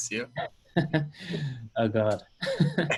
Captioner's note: laughing